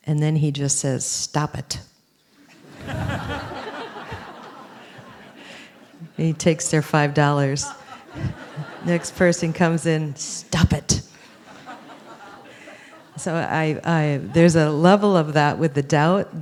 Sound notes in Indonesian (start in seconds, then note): 2.4 Suara tertawa; 11.1 Suara tertawa